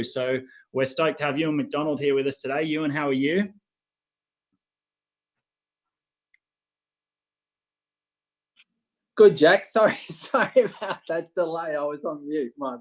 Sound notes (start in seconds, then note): 10.1 chuckles